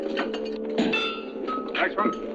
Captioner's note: chains rattling; metal clanging